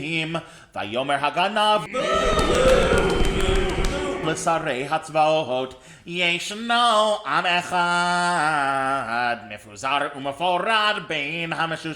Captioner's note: boo!